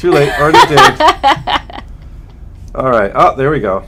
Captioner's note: laughter